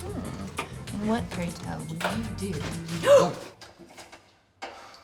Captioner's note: gasps